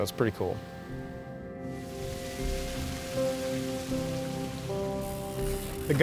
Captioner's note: water rushes